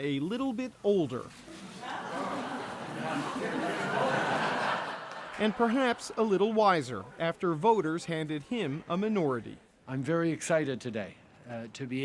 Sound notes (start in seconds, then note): 3.8 laughter